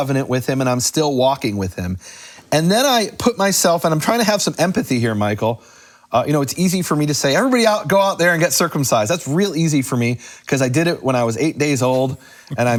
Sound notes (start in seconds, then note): none